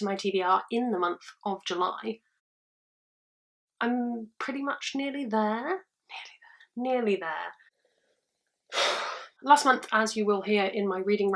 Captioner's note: sigh